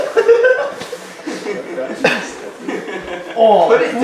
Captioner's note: audience laughing; assistant laughing; audience laughing